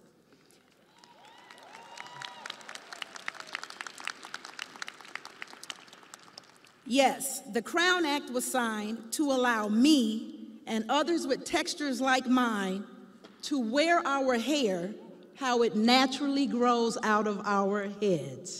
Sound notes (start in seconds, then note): 6.4 audience applauding; 6.4 crowd cheering